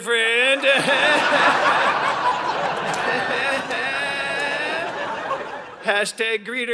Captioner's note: audience laughing